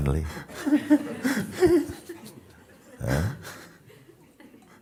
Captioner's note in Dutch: emotioneel gelach in sangha